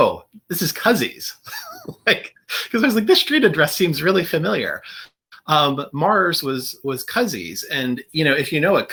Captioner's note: laughter